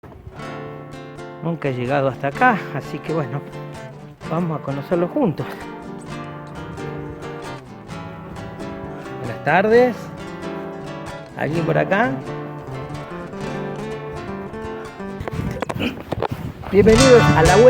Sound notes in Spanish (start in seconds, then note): 14.9 ruidos , golpes